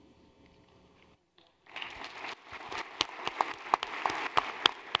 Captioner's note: applause